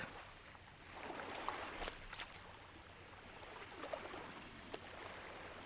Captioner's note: waves softly lapping at the shore